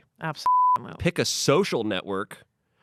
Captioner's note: beep